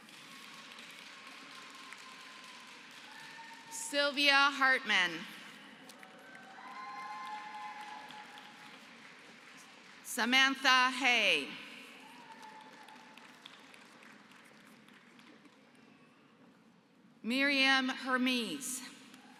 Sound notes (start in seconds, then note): 0.0 applause; 5.9 applause; 12.3 applause; 19.1 applause